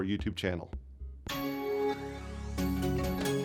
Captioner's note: intel chime